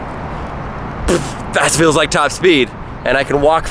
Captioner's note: scoffs